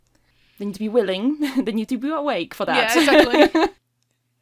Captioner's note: laughs